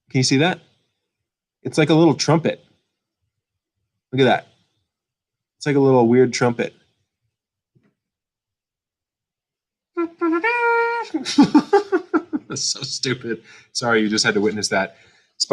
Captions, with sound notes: Can you see that? It's like a little trumpet. Look at that. It's like a little weird trumpet. (trumpet blares) (laughs) That's so stupid. Sorry you just had to witness that.